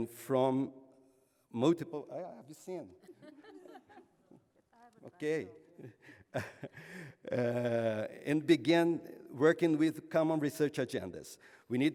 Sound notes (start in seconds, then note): 3.0 laughter; 7.2 laughs